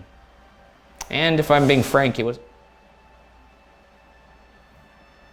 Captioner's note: whooshing